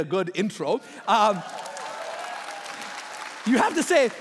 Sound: applauding

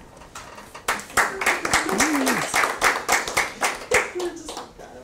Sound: audience applause

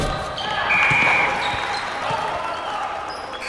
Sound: whistle

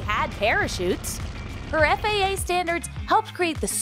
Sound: propeller whirring

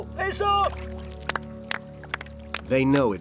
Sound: group applauding

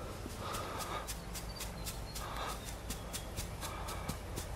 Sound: soil crunches

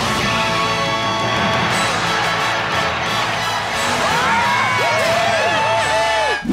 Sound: cheering

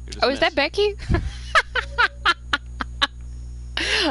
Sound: laughter

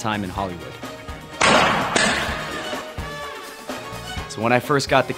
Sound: loud banging

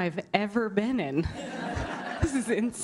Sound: laughter

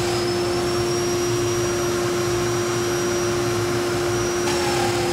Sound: saw cutting wood

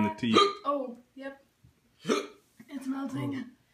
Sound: hiccups

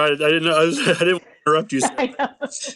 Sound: laugh

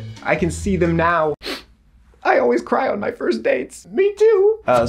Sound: sniffing

